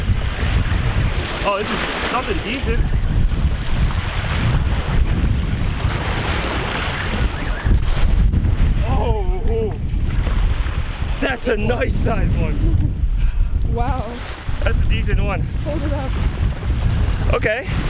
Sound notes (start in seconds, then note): 12.8 laughing